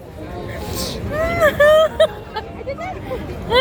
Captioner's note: laughs